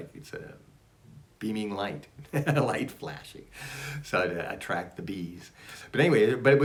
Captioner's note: laughs